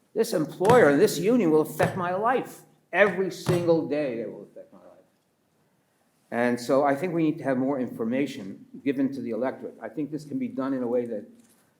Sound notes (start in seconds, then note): 1.7 taps table; 1.7 pats table